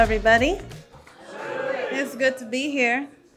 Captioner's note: audience responding